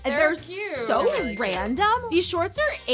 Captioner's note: cash register chiming